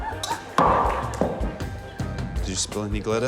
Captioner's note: thud!